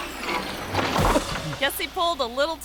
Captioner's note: gutter thuds; person thuds and groans